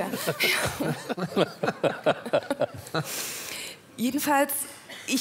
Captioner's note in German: Lachen